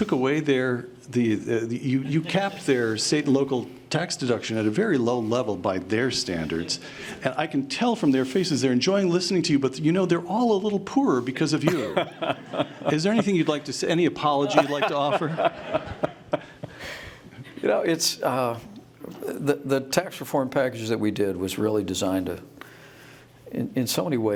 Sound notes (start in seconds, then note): 14.4 laughter